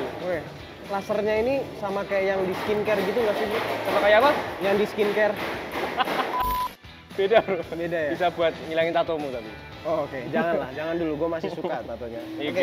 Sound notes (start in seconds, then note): 5.9 laughs